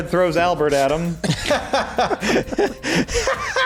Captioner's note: laughter